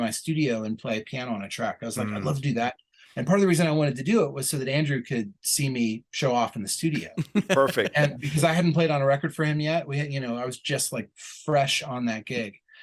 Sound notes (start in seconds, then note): 6.9 chuckle